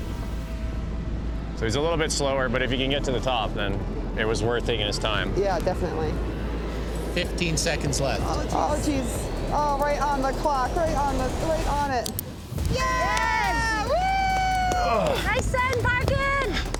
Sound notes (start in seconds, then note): 12.6 people cheering